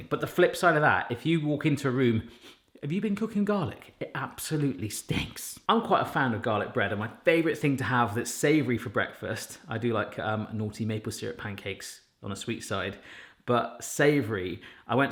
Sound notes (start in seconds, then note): 2.3 sniffs